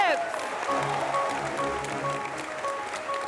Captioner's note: applause